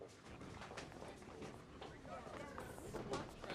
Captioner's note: indistinct chatter